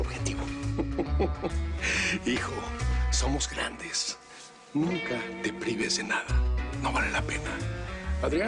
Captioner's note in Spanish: Risas